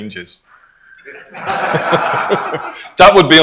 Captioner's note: crowd Laughs